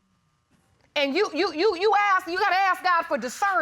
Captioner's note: stammers